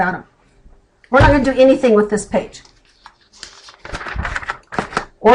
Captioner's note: flipping a page